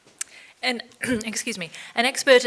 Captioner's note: clears throat